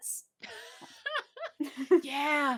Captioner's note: laughs